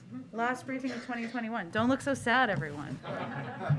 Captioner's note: laughter